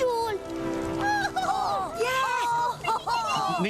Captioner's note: all laugh and cheer